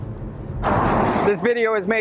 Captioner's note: car roaring